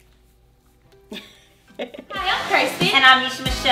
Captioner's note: laughs